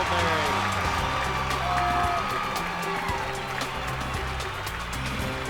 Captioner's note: cheers and applause